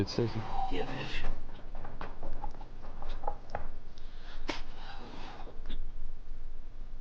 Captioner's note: eerie music; retches